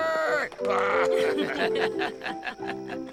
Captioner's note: laughter